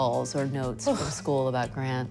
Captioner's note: sighs deeply